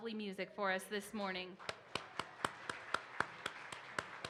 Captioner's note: claps